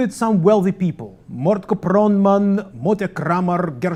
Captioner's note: non-english speech